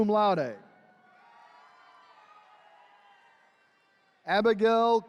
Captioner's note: attendees cheering